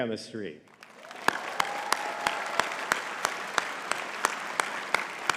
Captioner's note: audience clapping